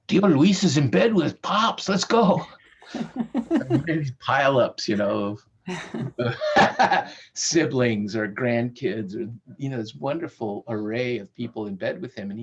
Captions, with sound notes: "Tío Luis is in bed with pops, lets go". And there are these pile ups, you know of (laughs) siblings or grandkids, or you know, this wonderful array of people in bed with him.